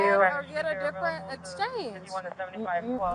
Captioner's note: radio chatter